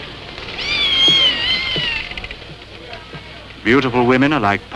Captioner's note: cat meowing